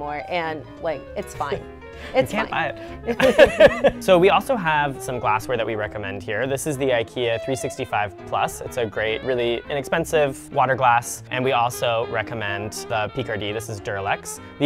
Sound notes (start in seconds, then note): 2.9 laughing